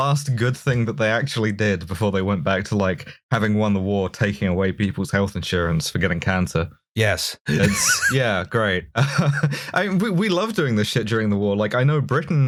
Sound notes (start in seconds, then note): 7.5 laughter